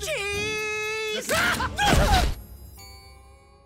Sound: shrieking

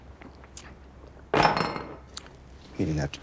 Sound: glass thuds

